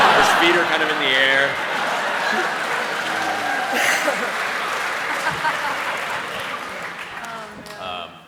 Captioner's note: cheering